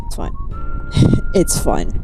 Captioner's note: painful exhale